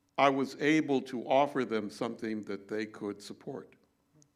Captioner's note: none